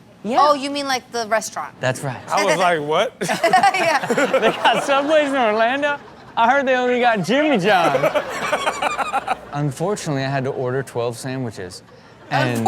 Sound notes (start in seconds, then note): 2.3 Chanel laughing; 2.3 laughs; 7.6 Sterling and audience laughing; 12.3 laughs